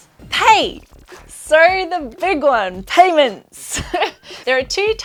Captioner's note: chuckles